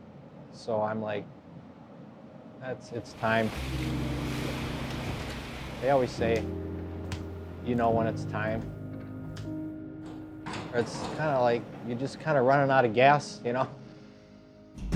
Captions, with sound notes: That could rear its ugly head again. So I'm like, it's time. (water crashing) They always say, "You know when it's time." Or it's kind of like you're just kinda running outta gas, you know?